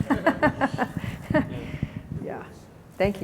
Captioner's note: laughter